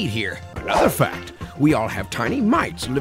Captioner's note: voiceover